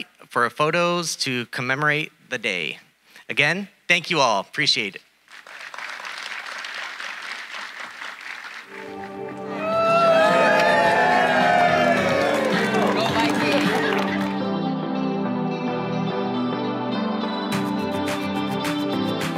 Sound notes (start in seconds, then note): 5.3 audience applauding; 8.6 all cheering; 13.1 uplifting electronic music